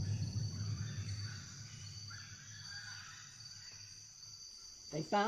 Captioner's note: monkeys chattering